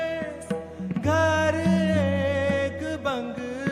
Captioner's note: none